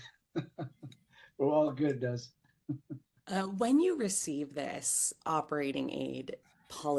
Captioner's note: laughing